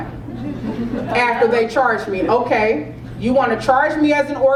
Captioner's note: laugh